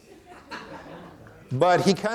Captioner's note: audience laughing